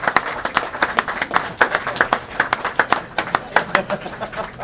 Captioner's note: applause